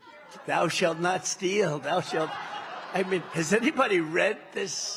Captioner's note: cheers and applause